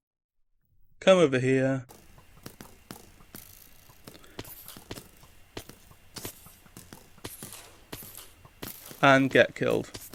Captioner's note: arrow landing noises; creeper falling noises